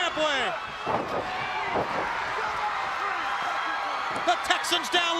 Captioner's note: crowd cheering